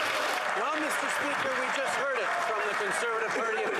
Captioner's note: yelling